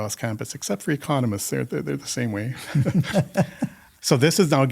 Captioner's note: laughter